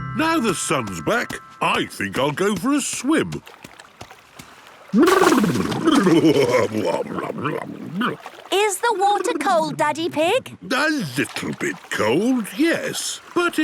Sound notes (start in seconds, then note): 6.7 exclaiming